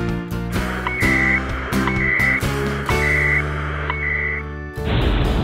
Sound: satellite beeping

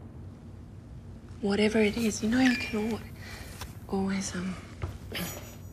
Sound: phone chimes

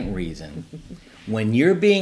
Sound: chuckles

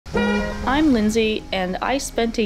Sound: honk

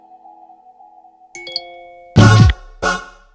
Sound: phone message tone

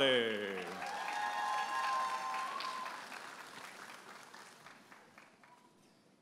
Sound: audience applauding and cheering

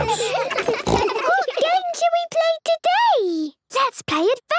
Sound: giggles, snorts

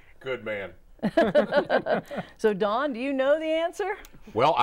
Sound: laughing

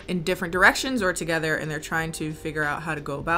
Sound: none

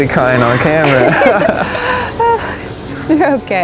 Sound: both laughing

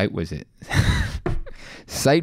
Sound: light laughter

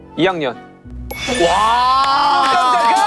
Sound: ding dong

